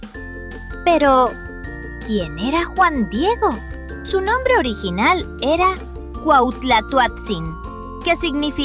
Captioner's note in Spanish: Voz en off